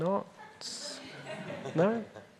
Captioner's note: audience laughing